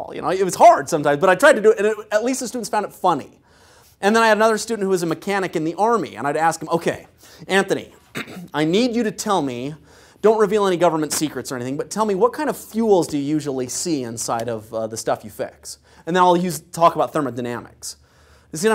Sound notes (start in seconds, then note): 8.0 cough